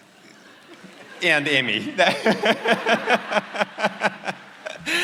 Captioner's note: laughs